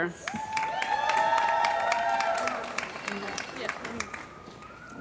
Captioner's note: cheering & Applause